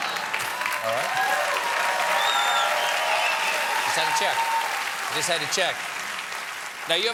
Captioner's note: applause